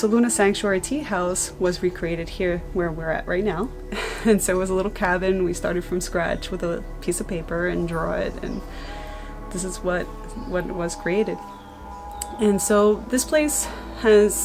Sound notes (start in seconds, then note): 3.9 chuckles